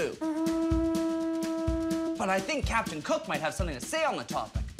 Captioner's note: ship horn